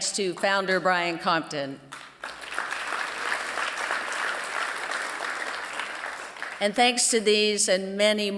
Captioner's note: applause